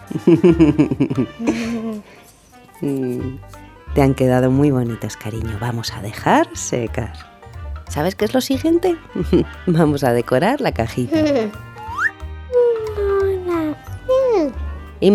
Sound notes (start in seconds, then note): 0.0 giggle; 0.0 giggles; 9.2 giggles; 11.1 giggle; 11.7 comic whistle; 12.9 whispers